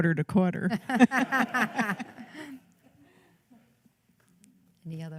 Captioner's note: laughter